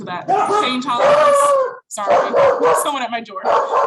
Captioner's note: dog barking loudly